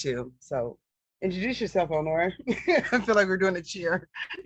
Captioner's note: laughing